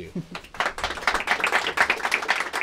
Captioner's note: applause